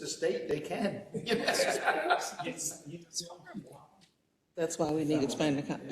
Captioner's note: laugh